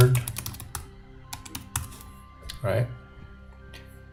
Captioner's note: keyboard typing; calm music